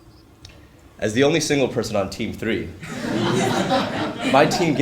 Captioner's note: laugh